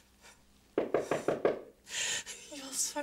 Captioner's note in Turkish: Kapı tıklanır